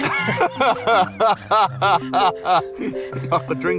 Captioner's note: all laughing